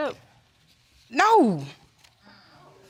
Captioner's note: none